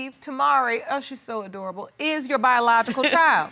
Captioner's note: chuckling